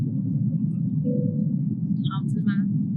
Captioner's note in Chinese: 廣播音響起